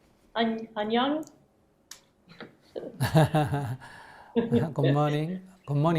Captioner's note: /Questioner laughter